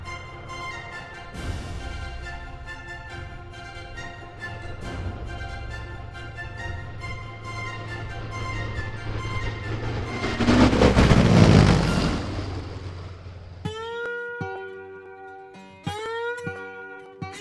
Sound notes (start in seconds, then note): 10.8 whirring; 13.6 guitar music